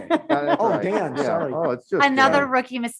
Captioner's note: members laughter